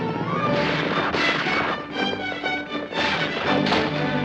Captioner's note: gunshots